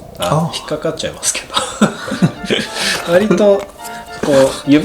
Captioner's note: laughs